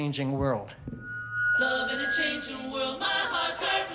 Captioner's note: microphone feedback